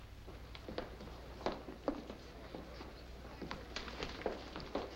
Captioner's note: soft chattering